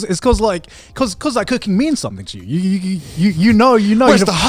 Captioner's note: stutters